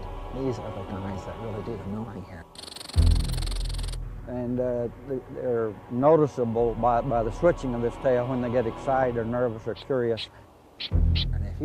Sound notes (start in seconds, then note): 2.4 squirrel chittering; 10.7 squirrel chittering